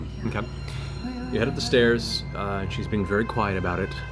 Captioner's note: none